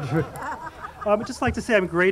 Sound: audience laughing

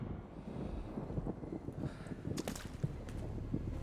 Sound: thunder rumbling; breathing heavily

